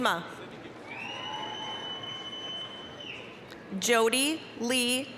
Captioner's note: applause, cheering